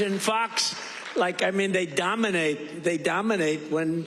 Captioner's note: cheers and applause